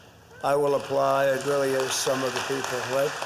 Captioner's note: applause